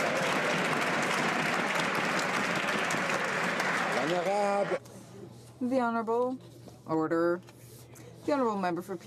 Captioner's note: some Applause